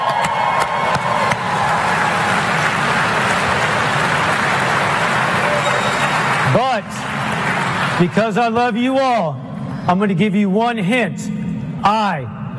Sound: applause

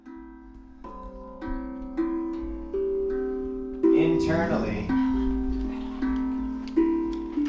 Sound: Bella growls

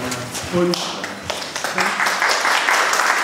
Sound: applause

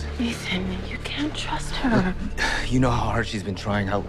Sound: sighs

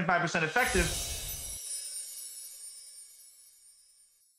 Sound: logo warbles

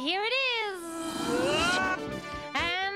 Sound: Tizzy buzzing

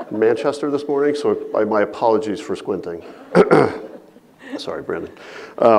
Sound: audience laughing; clears throat

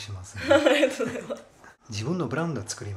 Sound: laughing

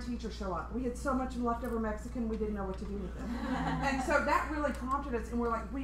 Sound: laughter

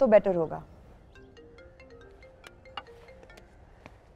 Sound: phone ringing

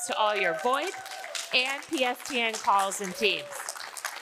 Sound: audience applauding

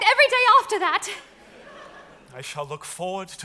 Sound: audience laughs

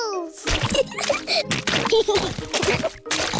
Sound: oinks; both giggling

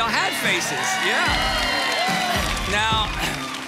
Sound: audience cheering

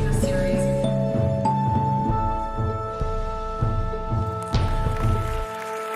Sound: clapping in the background

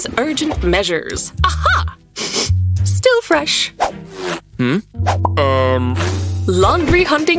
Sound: sniffling

